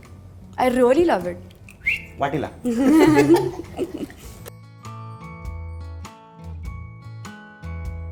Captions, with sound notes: I really love it [Whistle] Get the bowl [Giggles]